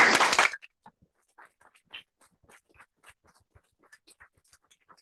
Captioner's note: applause